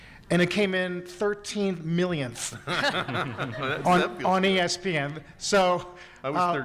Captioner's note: attendees laughing